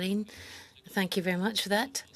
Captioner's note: speaking French